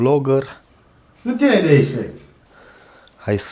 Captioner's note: with a strong Moldavian accent